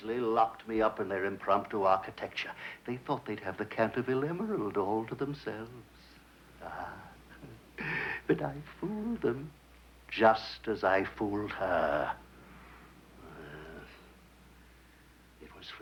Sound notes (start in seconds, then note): 6.6 laughs